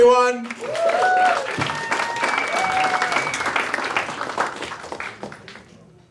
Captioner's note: audience applauding and cheering